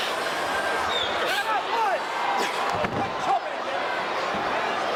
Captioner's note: crowd chattering